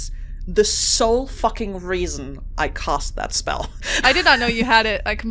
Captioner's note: laughs